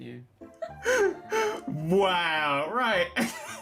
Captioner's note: laughing